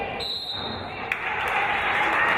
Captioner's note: referee's whistle; applause